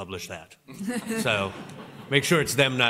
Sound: laughter

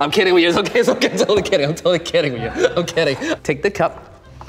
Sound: laughs

